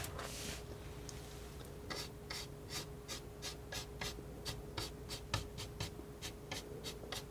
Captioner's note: scratching